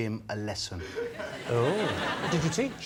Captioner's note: laughter